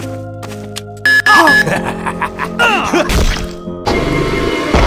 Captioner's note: evil laugh that is cut short